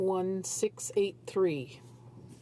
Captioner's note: speaking French